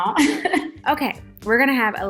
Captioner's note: laughing